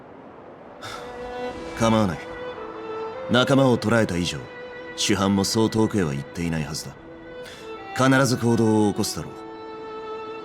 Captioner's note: sigh